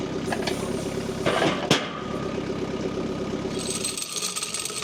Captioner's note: wood clanging; log saw rattling